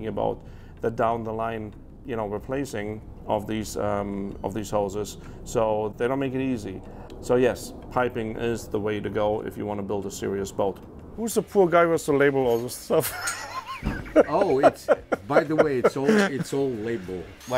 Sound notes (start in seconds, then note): 12.9 laughing